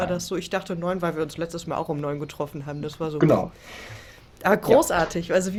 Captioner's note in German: schnauben